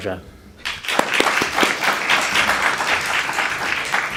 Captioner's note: applause